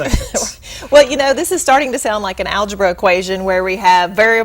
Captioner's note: chuckle